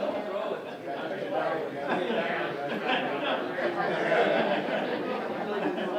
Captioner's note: audience chatting indistinctly